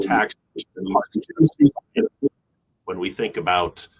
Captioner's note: microphone feedback